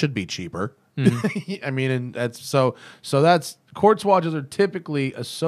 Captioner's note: laughter